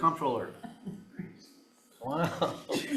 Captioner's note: chuckling; attendee chuckling